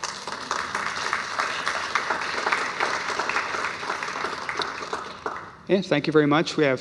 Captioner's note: applause